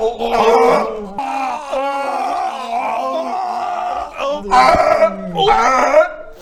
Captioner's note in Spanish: hhhrrrrrrrggghgggggghgglgh; arrrrg-rrrrrghh-ughrrrrrrrrgh; aún haciendo arcadas